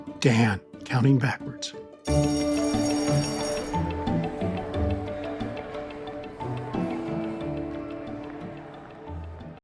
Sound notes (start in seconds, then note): 2.0 bells ringing; 2.2 gentle music